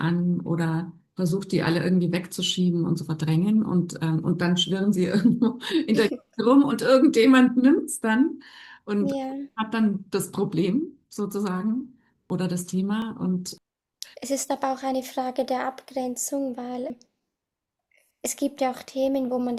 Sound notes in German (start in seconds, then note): 5.1 gelächter